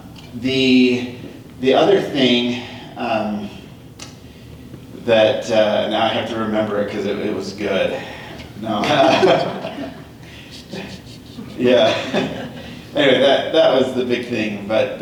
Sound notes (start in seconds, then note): 9.0 laughter